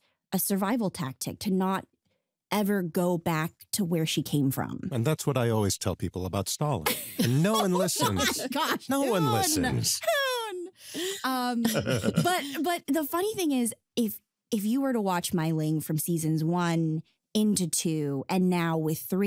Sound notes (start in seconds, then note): 11.6 laughs